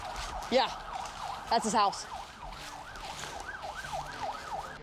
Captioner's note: sirens wailing